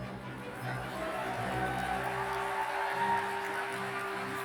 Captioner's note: cheers and applause